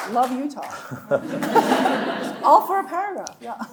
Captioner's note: audience laughing; chuckling